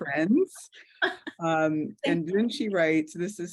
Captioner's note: laughs